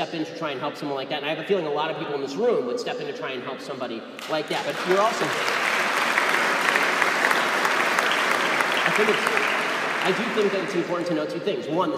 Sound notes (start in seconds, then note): 4.2 applause